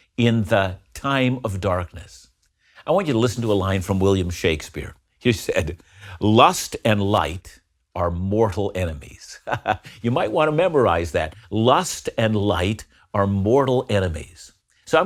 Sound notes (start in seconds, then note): 9.4 laughs